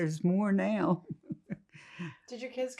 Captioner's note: laughing